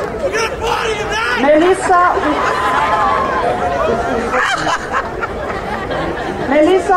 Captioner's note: crowd laughing